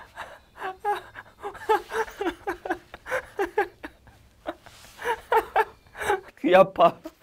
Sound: can't stop laughing

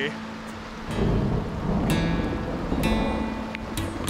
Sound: thunder

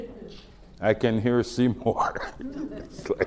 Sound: laughs

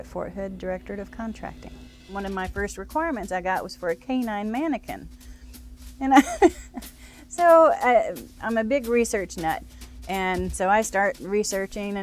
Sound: laughs

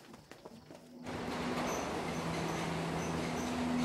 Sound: train passes overhead

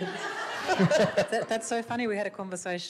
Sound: audience laughs

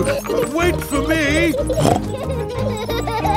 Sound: snorts

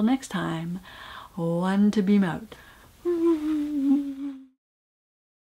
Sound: whoooo

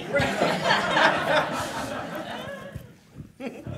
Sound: all laughing

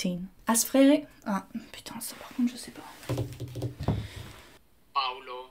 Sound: speaking French

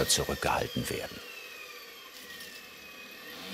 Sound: whirring of the drill

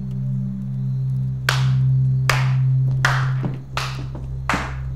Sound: clapping

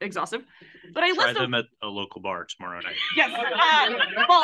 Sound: laughs

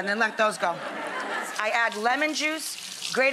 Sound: audience laughs

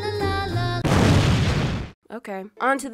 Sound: snazzy christmas music; explosion

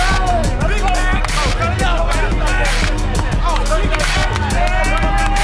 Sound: shouting and cheering over one another

